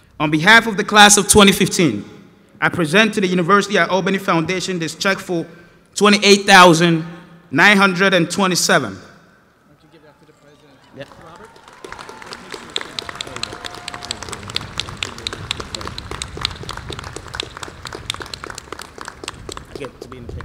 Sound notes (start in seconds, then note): 7.0 applause